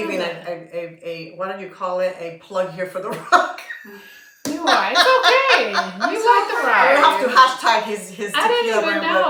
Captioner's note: laughter